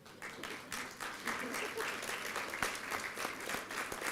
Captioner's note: applause